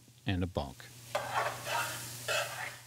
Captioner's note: food sizzling; spoon stirring